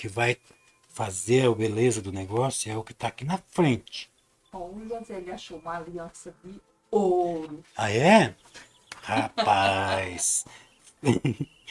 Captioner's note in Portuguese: risadas